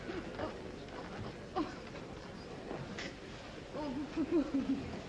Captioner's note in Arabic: ثرثرة منزعجة